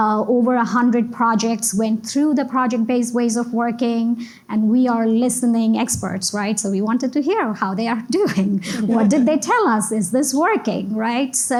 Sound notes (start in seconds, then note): 8.4 giggles; 8.6 laugh